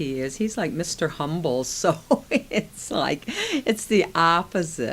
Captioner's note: laughs